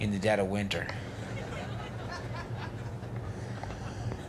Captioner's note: audience laughs